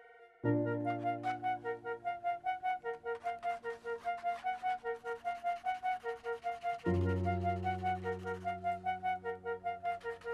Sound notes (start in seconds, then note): 4.9 pencil scratching; 6.7 gentle electronic music